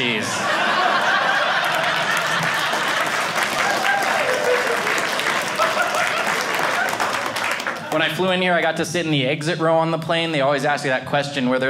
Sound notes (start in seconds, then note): 0.0 audience laughing; 3.2 audience cheering